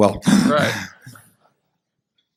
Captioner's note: laughter